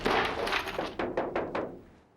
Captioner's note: knocking at door